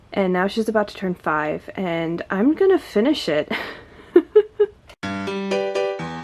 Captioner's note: laughs